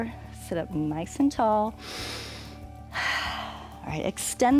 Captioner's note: inhales and exhales